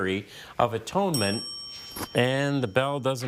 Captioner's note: bell dinging